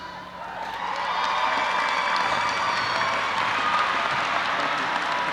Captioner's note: audience applauding and cheering